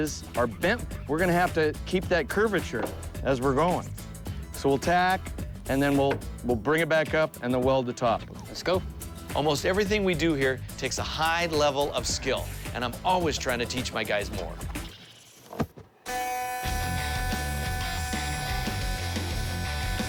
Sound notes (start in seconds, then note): 16.0 electrical whirring; 16.6 heavy rock music